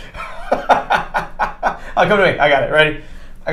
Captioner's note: laughing